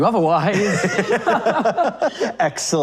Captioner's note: laughing